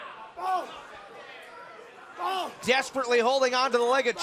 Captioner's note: crowd chatter